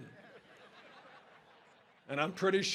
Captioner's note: audience laughing